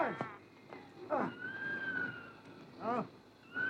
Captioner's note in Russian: крики лесных птиц